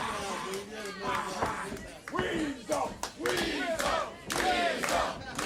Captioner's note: crowd cheering